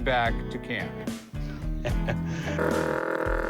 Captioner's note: chuckles